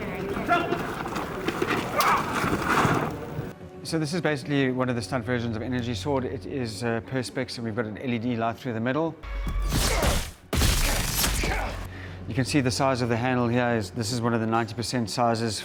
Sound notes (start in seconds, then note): 9.6 weapon crackles